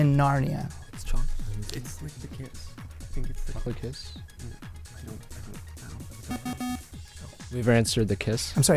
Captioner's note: wispering